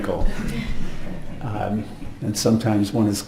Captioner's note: audience laughs